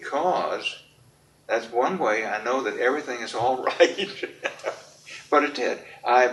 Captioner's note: laughs